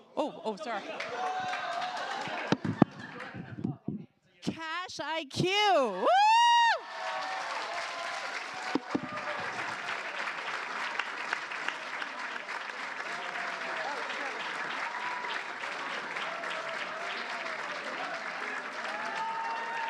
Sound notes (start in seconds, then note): 5.9 cheers, applause